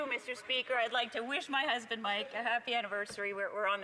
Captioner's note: applause